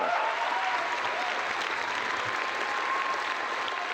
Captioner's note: applause